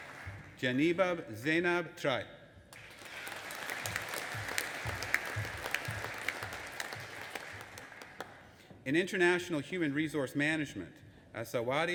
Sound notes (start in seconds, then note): 2.7 audience applauding